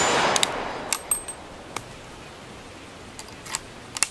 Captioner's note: gun bangs; gun cocking